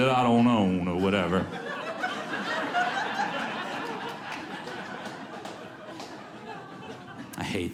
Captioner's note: audience laughs